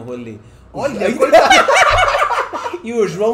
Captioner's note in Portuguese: gargalhadas